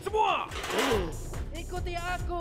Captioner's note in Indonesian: tentara menggeram